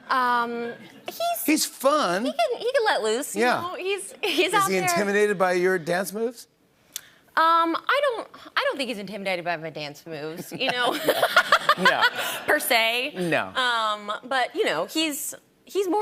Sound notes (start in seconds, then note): 10.3 laughter